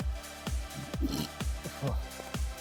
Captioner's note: burps